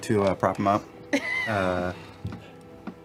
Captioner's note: laughs